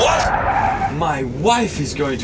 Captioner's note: tyres screech